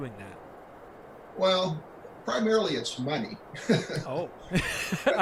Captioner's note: laughs